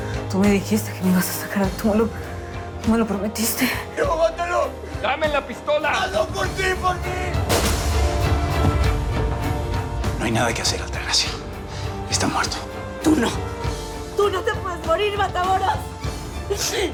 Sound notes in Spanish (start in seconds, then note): 7.4 Disparo